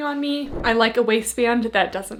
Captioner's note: screen whooshing